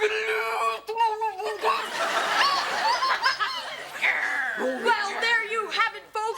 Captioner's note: Kevin screeches into the microphone